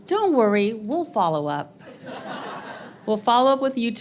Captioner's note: audience laughs